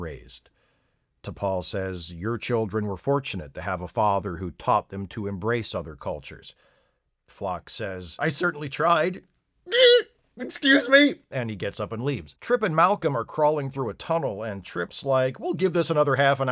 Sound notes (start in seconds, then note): 9.6 sob